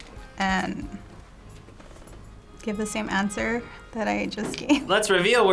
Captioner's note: laughs